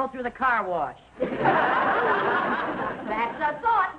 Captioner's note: audience laughing